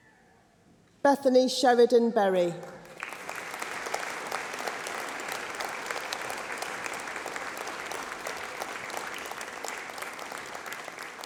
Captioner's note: applause